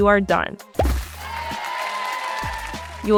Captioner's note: confetti pop; cheering